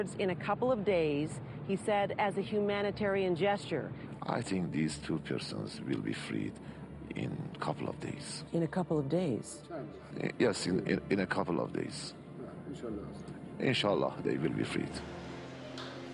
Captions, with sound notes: in a couple of days, he said as a humanitarian gesture. - I think these two prisoners will be freed in a couple of days. - In a couple of days? - Yes, in a couple of days. (speaking foreign language) They will be freed.